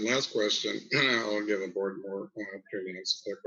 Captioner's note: speaks faintly